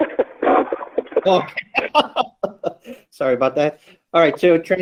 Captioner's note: laughs